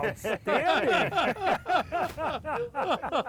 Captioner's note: everybody laughing